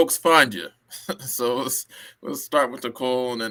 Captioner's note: laughter